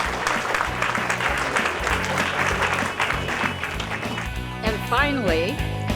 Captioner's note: applause